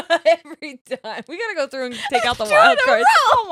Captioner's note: laughing